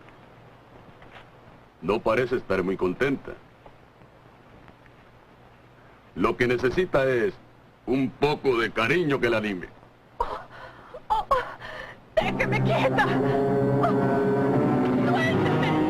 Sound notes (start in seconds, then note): 9.4 yells